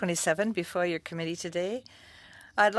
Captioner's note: speaking French